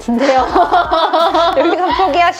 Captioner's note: laughter